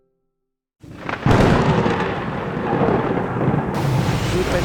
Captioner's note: thunderstorms; heavy rains